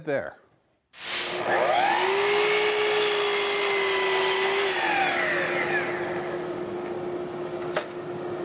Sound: miter saw whirring

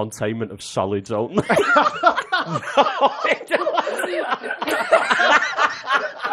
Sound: laughter

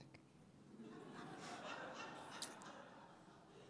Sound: laughing

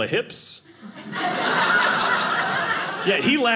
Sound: audience laughing

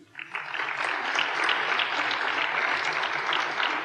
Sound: applause

